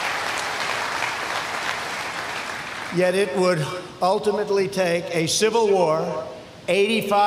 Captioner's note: applause